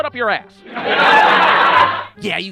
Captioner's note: audience laughter